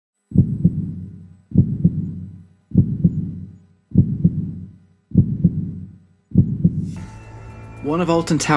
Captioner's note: dramatic heartbeat